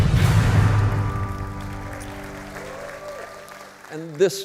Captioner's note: dramatic music; audience applauding